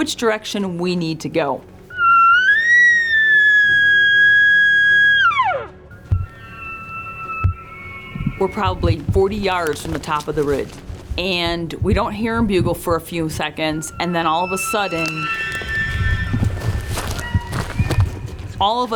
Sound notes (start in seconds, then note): 5.9 elk call; 9.5 elk bugling